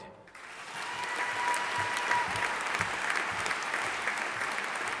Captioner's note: audience applauding